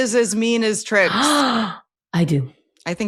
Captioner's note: gasps